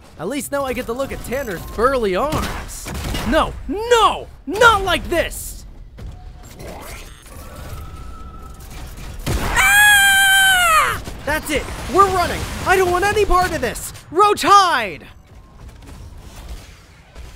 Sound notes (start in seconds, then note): 2.8 gunshot; 9.4 screaming